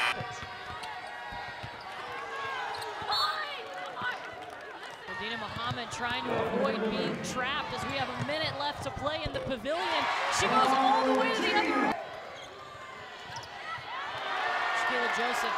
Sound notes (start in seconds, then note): 0.0 buzzer loudly buzzing; 0.0 crowd cheering; 2.9 referee whistles blowing; 12.9 crowd cheering